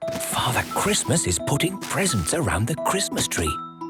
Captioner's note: grunting; narrator whispering